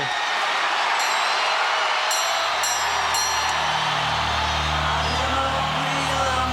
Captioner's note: audience cheering; bell ringing